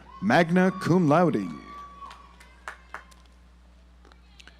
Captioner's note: audience applauds